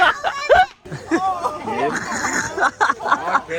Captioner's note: laughing